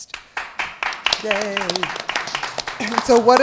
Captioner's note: applause